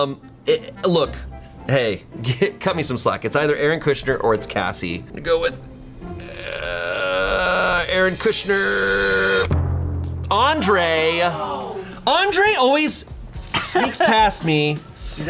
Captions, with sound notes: Look, hey, cut me some slack, It's either Aaron Kushner or it's Cassie. I'll go with Aaron Kushner. Andre. (colleagues gasping) Andre always sneaks past me.